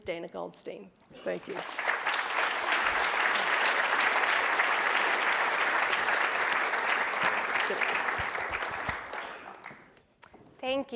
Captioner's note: applause